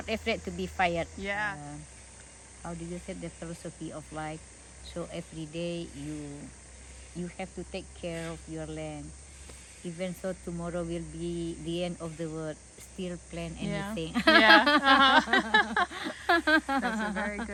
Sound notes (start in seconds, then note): 13.6 laughing